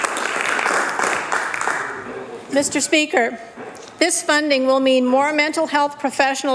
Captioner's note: applause